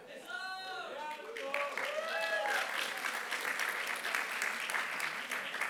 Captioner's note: applause